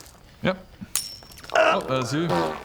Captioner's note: ping!